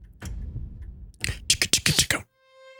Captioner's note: imitates gun firing